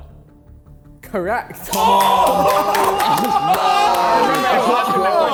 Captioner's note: men cheering